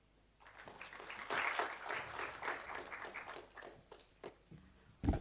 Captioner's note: audience applauding